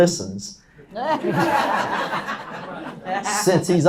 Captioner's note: laughs